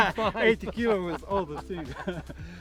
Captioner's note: laughing